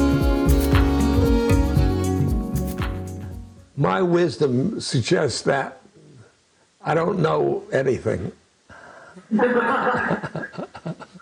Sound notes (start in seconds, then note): 9.2 laughter